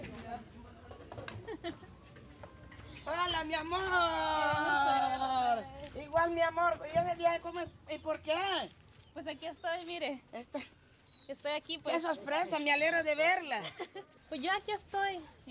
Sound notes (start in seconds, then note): 2.4 speaking spanish